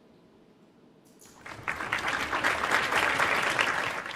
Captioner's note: applause